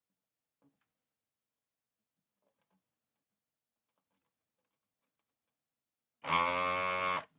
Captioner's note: silence